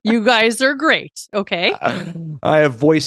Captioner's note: laughs